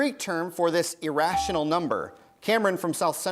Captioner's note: bell rings